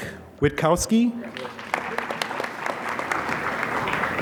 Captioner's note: applause